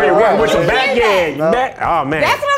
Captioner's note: overlapping chatter